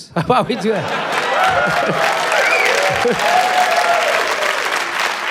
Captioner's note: laughs; cheering, applause